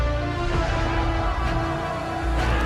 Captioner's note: troops yelling